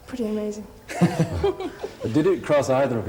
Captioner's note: both laughing